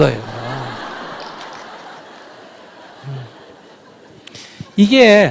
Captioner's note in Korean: 청중 웃음